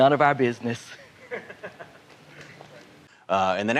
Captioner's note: guffaw